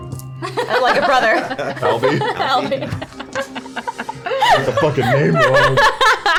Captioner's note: laughter